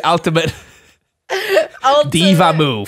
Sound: both laughing

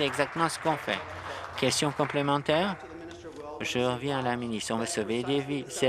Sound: applause

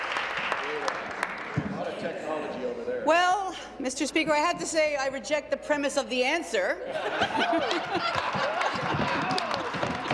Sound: applause

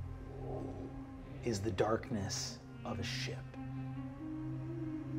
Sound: mimics wind rushing softly

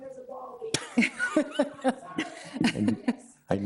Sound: laughs

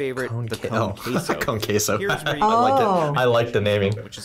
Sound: laughs

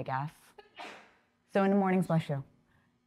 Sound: person sneezes

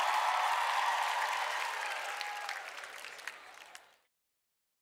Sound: cheering fades out

